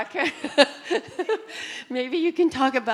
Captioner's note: laughing